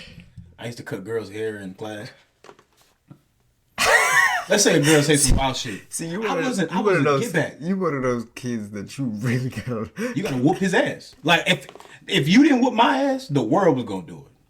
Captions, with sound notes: I used to cut girls hair in class. (laughing) Let's say girls take some off sheet. - See, you wouldn't-- - I wasn't, I wouldn't get that. - You one of those kids that you really got. - You gotta whoop his ass. Like if you didn't whoop my ass, the world was gonna do it.